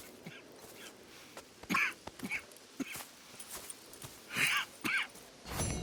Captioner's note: Arthur coughs while Strauss leaves camp